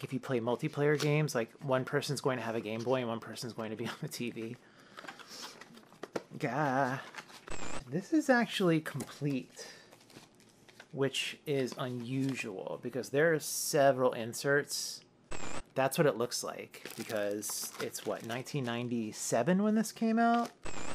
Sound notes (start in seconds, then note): 7.5 static; 15.3 static; 20.6 static